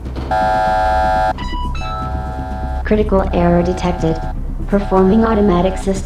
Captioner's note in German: robotic voice